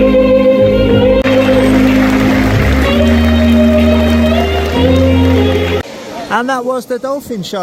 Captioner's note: تشویق حضار